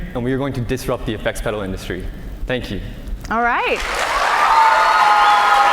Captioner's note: cheers and applause